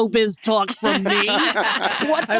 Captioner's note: all laughing